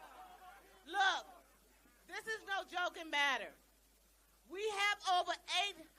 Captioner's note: laughter